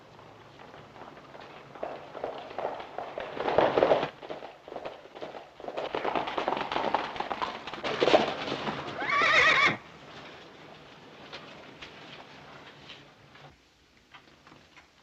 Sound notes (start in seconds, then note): 2.1 horses galloping; 8.9 horse neighing